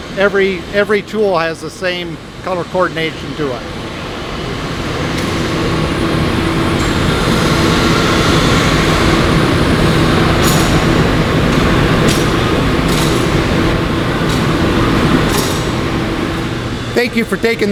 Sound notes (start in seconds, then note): 3.8 buzzing sound